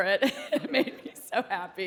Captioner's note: laughing